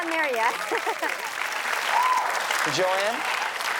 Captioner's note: audience cheers and applauds